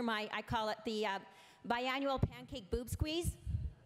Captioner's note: none